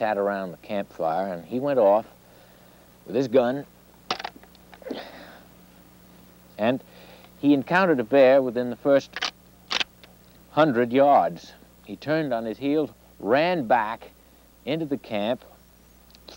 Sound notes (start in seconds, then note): 9.1 gun clicking